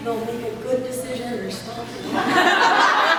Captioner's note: laughs